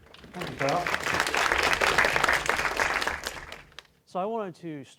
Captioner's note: applause